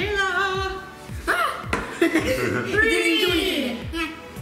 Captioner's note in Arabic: يضحك